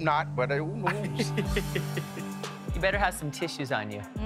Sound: laughs

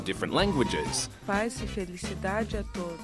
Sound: greeting in foreign language

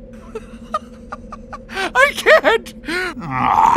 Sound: laugh

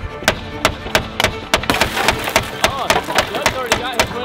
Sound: dramatic music; glass smashing

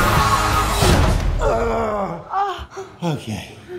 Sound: groaning

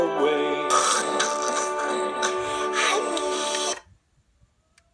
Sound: snoring

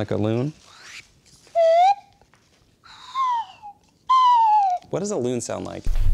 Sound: slide whistle

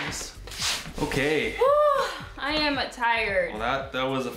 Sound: sigh

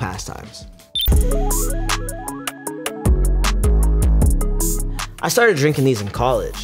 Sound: hip hop music; electronic beep

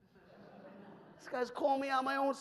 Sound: audience laughs

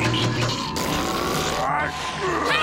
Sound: growling

